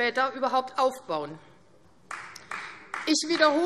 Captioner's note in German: Vereinzelter Beifall AfD